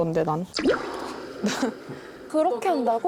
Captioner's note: unfamiliar side sound effect